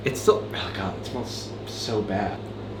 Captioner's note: none